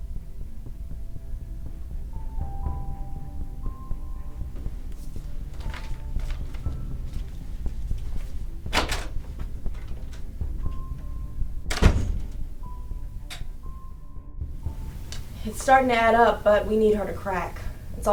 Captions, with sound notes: (door opens) (door slams shut) - It's starting to add up, but we need her to crack.